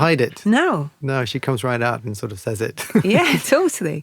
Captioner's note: laughs